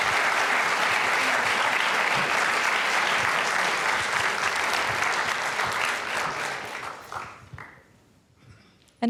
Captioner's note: applause